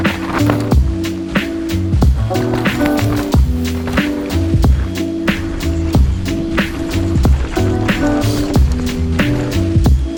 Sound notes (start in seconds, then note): 0.5 wheels whirring; 1.8 ambient lo-fi music